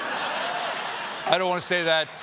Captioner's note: laughter